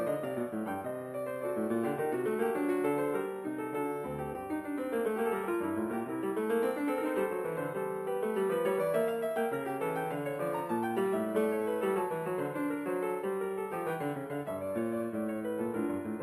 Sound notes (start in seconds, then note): none